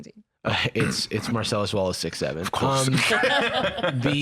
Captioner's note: laughs